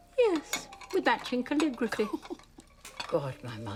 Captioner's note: Robyn laughing